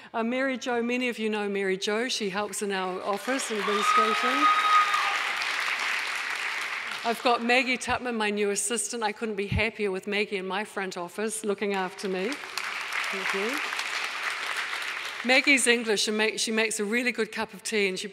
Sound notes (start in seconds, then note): 3.0 audience applauding; 3.6 audience member cheering; 12.0 audience applauding